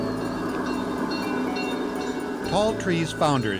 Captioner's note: bell ringing